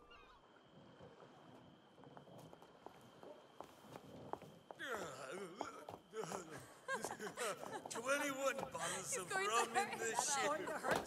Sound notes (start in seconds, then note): 4.8 sailor groans; 6.3 women giggle